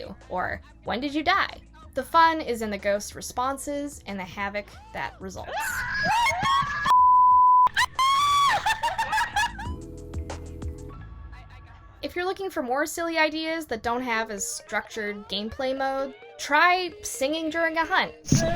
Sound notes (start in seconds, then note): 7.7 laughs